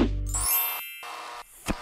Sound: chiming; electrical pulsing

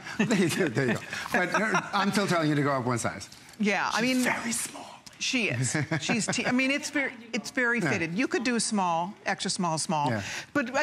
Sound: laughter

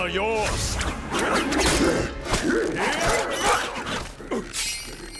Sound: grunting

